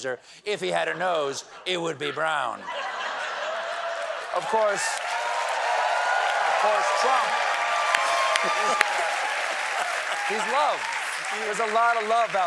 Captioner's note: cheers and applause